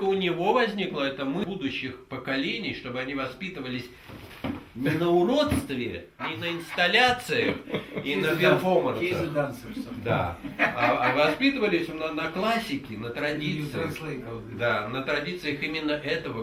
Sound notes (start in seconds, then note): 0.3 speaking in the Russian language; 6.2 men laugh; 9.6 laughs; 11.1 speaks in the Russian language